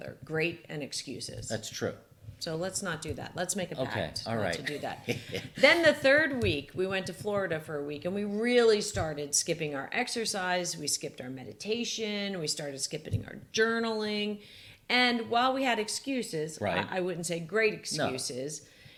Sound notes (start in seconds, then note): 4.5 laughs